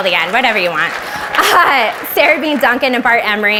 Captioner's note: audience applauds